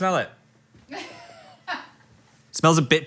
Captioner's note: crew member laughs